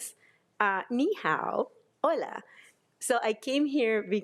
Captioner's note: speaking in foreign language